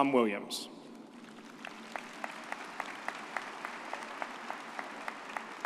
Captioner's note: audience applauds